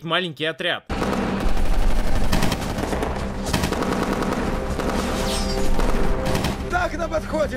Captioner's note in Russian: слышны выстрелы